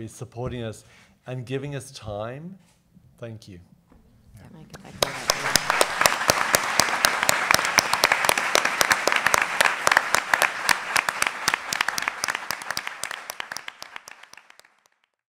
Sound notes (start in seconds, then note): 4.8 panelists murmuring; 5.3 audience clapping